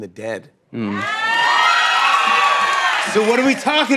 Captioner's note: cheers and applause